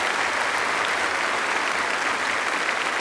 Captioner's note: applause